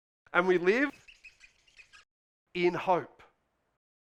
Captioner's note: pen scribbling